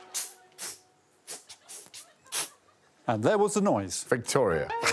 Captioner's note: blows rhythmically